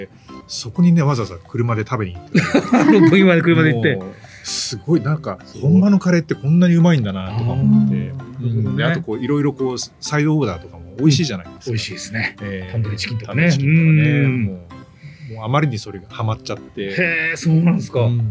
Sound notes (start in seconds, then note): 5.3 laughs